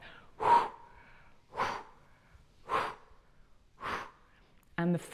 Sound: breath, breath, breath, breath

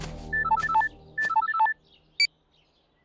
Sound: mobile beep; mobile phone ringing

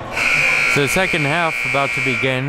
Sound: buzzer rings

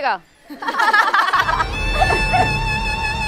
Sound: crowd laughing

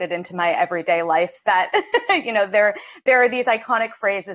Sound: laughs

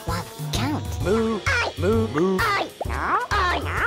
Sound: pigeons yell

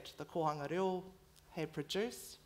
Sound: foreign language

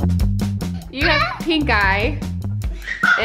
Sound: yelling

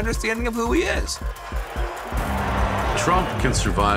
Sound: crowd cheering

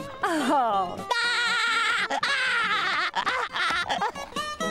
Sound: laughing

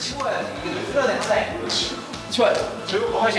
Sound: pat pat pat

